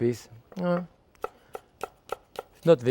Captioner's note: knife tapping